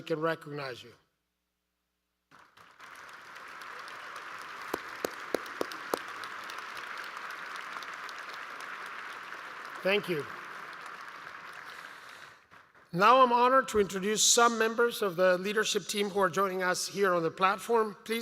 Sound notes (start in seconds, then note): 8.4 applause